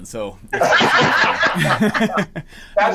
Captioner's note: all laugh